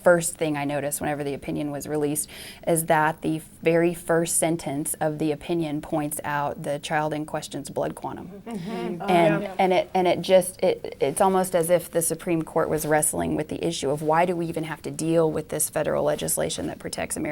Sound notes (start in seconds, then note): 8.2 murmurs of agreement from the group